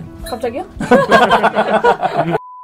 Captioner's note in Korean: 웃음